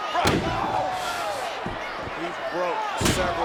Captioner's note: crowd murmuring; chair rattles